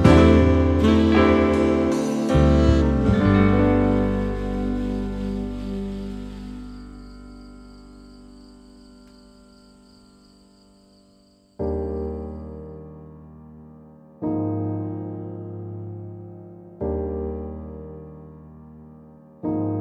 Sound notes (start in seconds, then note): 7.1 crickets chirping; 11.9 soft piano music